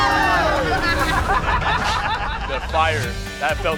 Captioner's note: family shrieks; family laughs